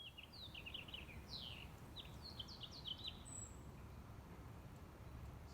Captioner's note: birds twittering